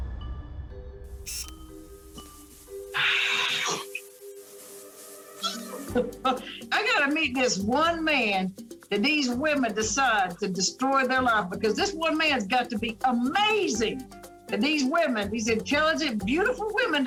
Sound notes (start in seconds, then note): 2.9 sighs; 5.4 laughs